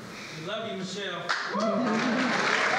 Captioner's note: applause